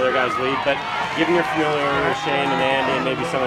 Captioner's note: crowd cheering